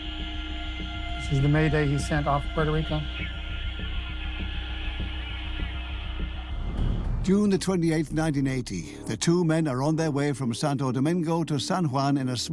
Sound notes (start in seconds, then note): 3.9 radio crackles